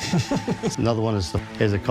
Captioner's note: laughing